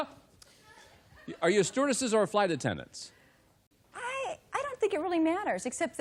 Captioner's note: laughs